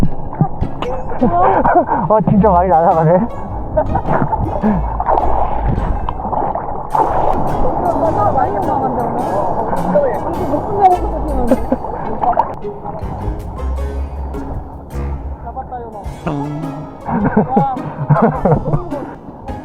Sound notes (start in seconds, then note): 3.7 awkward laugh